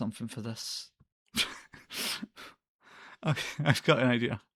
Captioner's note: evil laughter